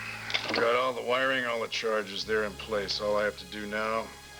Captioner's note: disguised voice